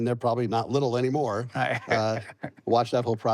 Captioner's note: laughs